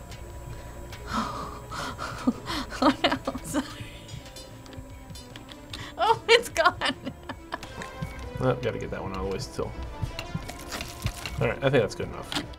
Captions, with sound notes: (snickering) Oh no. Sorry. (chuckling) Oh, it's gone! - Oh, got to get that one always too. (bones cracking) There, I think that's good enough.